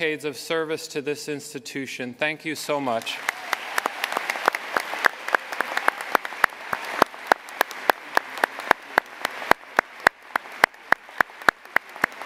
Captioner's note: cheers and applause